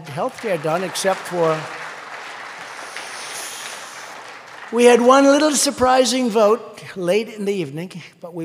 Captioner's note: applause